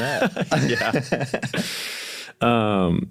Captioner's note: group laughs